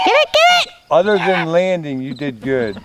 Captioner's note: people screaming